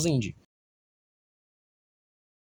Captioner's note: Silencio